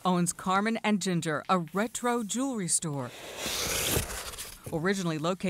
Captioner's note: cardboard boxes opening